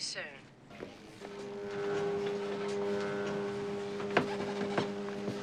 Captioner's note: fax machine buzzing